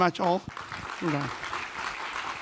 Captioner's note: audience applause